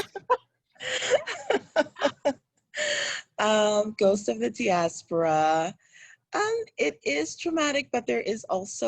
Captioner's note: laughs; laughs